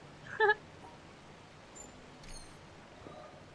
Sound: giggle

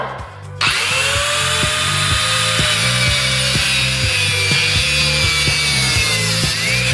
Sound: upbeat band music; saw motor whirs

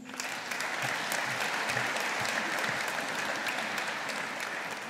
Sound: audience applauding

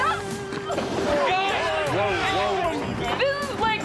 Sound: yelling

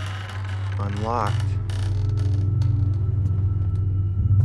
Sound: door creaks; dissonant music

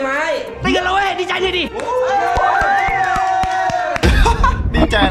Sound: cheering

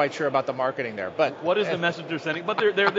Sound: laughs

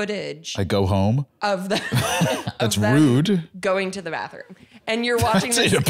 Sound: laughs

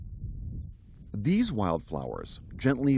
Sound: voice-over

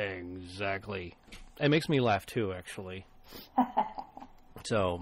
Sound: laughs

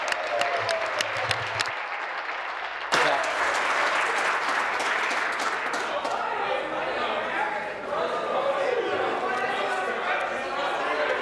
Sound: applause

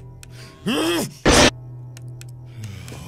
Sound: screm

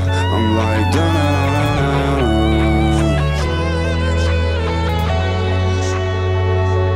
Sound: humming; pop music continues

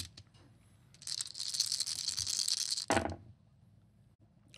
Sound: dice rattling

